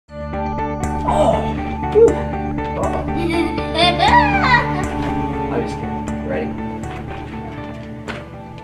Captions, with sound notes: (gentle music) (groans) (giggling) - I'm just kidding. Ready?